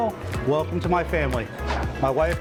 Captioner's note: swish